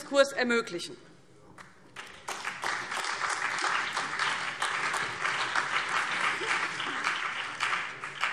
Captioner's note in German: Beifall BÜNDNIS 90/DIE GRÜNEN, vereinzelt CDU und AfD